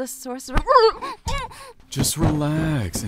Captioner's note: struggling noises